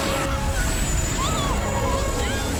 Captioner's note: screaming